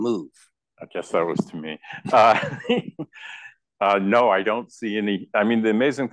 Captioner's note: laugh